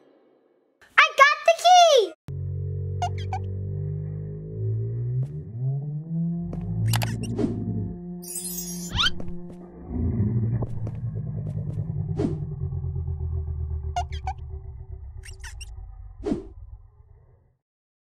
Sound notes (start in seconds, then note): 3.3 sound booming; 8.2 chimes ringing; 9.1 growling; 15.3 wings squeaking